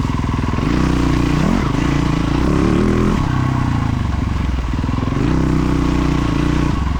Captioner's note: engine revving